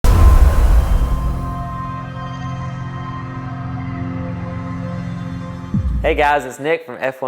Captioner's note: sound effect